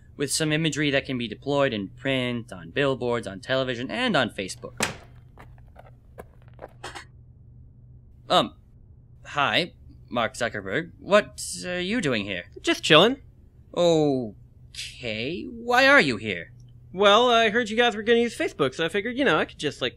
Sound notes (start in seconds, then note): 4.7 door closes, footsteps; 6.8 chair creaks